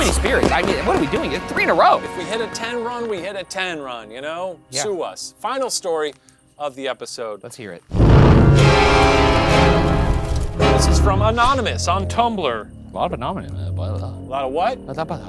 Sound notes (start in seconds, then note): 7.9 flames flickering; 7.9 flames whooshing; 7.9 abrupt ominous music